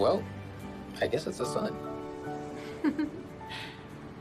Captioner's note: giggles